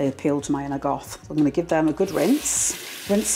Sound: watery splashing

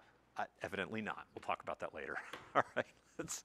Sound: laughs

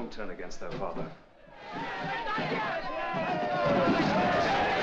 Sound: yelling & banging; doors burst open; mob clamoring

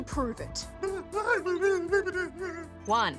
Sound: whimpers

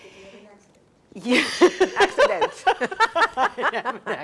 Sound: laugh

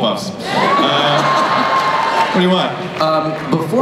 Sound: laughter

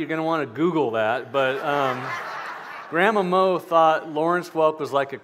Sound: laughter

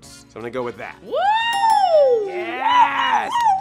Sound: ding ding

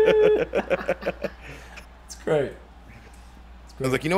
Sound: laugh

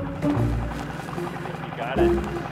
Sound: quirky light classical music continuing; boat engine chugging

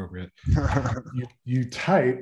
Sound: laughing

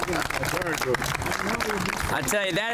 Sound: applause

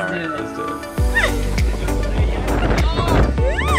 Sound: laughing

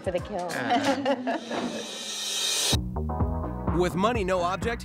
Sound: laughs

